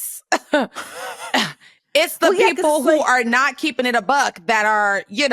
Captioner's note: laughs